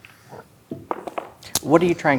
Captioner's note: dice rolling